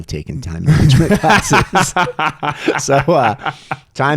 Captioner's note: laughing